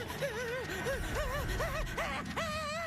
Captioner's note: gasps; chuckles